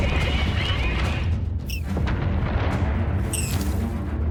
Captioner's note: squealing